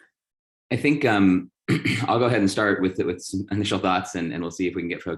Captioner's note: cough